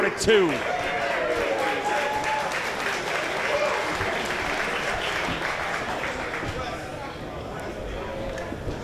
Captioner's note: applause